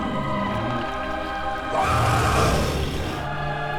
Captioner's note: creature roaring